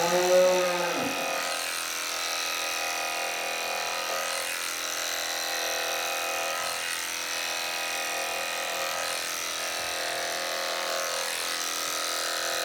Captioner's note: cow moos; shaving noises